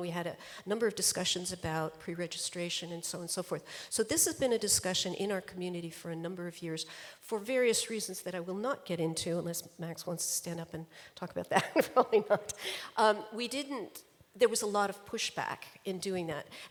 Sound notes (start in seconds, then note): 11.6 laughs